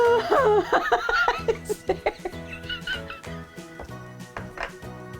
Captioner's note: laughing; laughing